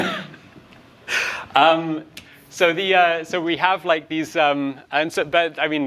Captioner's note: laughs